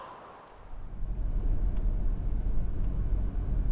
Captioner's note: car sounds while driving